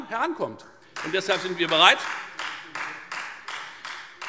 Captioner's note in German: Beifall Freie Demokraten